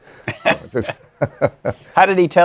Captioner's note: laughter